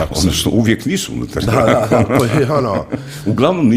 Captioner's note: laughter